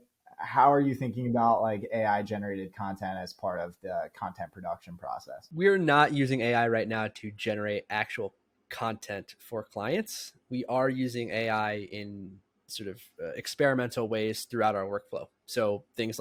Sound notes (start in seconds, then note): 14.1 speaking